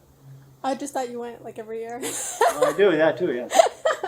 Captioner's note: laughs